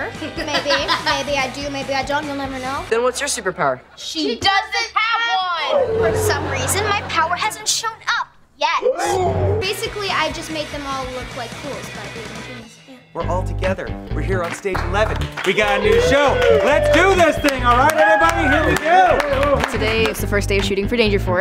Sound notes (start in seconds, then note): 8.8 gasping